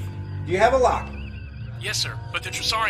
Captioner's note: comm voice